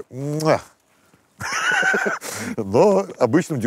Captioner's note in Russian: смеется